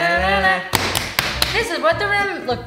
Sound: hums song together; slaps legs

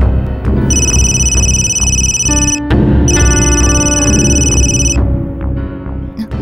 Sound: phone ringing

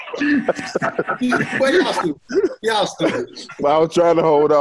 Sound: laughter

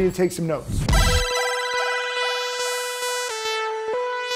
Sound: buzzer buzzing

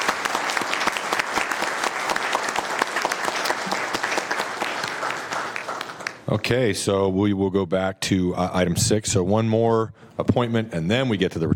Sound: applause

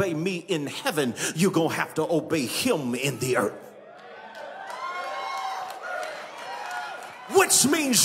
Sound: congregation cheering

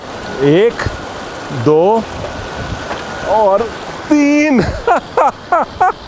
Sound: laughter

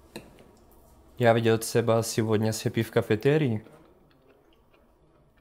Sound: speaking Russian

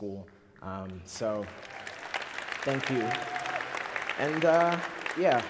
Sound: applause

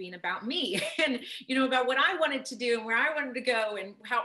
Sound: laughs

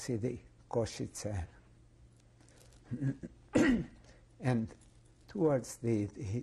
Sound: pauses for 3 seconds

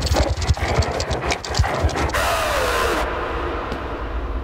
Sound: scorpion scurries

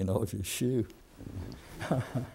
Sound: laughter

